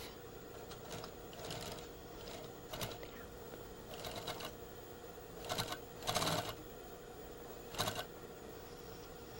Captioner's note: sewing machine